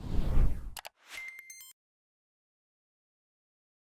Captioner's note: whooshing